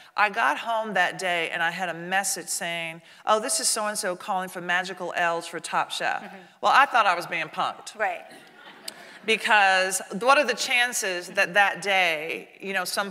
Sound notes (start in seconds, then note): 8.4 audience laughing